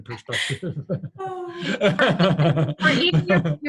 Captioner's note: laughing